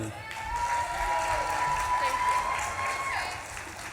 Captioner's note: audience claps and cheers